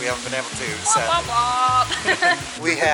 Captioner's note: laughter